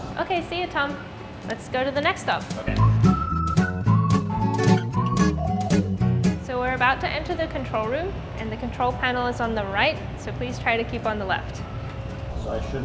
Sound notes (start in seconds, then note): 2.2 upbeat strumming; 2.7 whistling